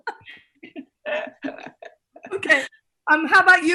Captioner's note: laughing